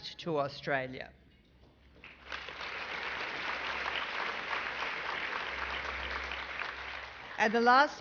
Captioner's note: applause